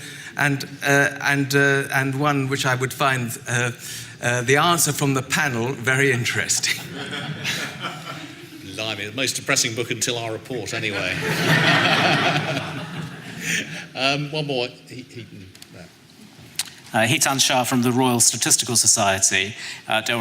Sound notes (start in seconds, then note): 6.6 laughing; 11.0 laughing